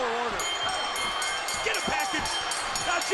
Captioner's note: bell ringing